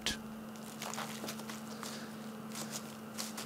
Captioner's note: rusting